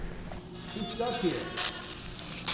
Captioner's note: spirit box scanning; spirit box voice